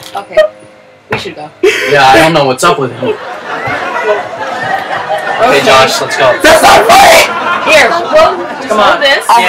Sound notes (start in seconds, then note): 3.0 audience Laughs